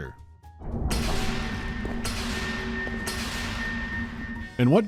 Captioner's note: clanking of lights turning on